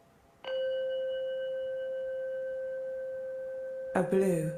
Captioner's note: chime ringing